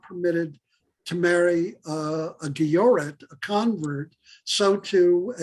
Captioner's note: Hebrew; Hebrew